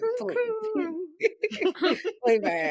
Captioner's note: laughing